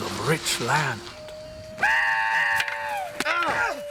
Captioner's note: scream